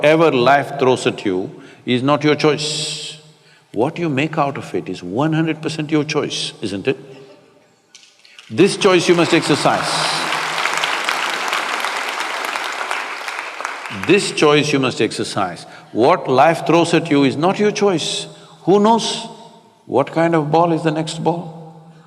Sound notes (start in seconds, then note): 12.8 applause